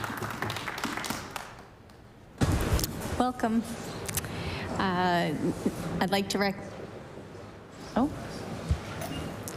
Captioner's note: applause